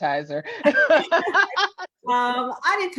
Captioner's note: laughs